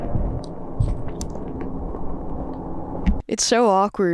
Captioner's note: door clacks; shoes clop